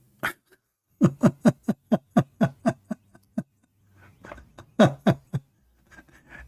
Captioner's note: Ketawa